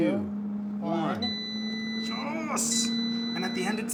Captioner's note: oven beeping